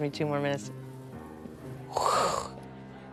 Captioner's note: imitates whoosh